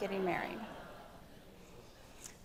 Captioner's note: attendees laugh